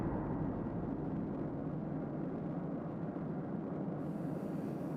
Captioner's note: air whooshing